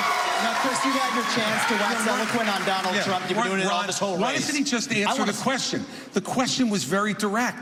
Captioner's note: cheers